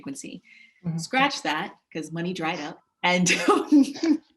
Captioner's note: laughs